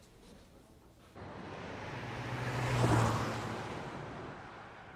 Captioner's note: traffic humming